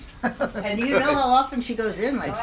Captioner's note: laughs